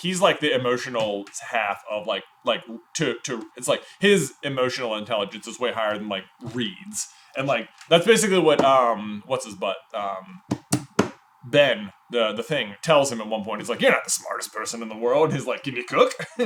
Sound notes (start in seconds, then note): 10.5 taps table